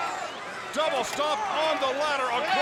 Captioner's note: crowd chatter